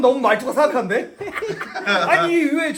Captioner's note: hehehe